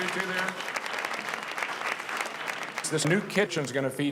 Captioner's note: audience clapping